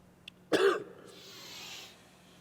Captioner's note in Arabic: سعال